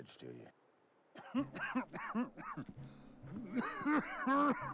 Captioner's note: man coughing